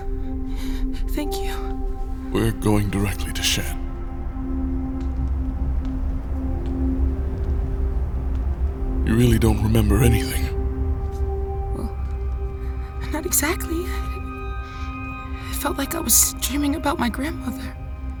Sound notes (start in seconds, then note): 2.3 rustling fabric; 4.8 footsteps